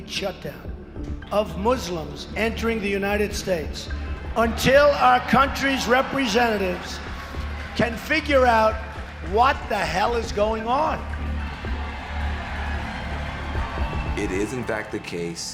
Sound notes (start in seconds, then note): 6.9 audience cheering